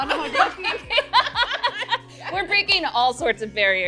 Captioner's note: laughing